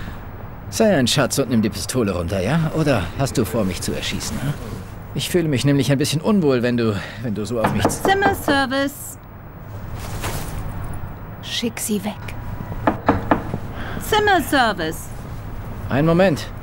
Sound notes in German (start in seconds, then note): 7.5 klopf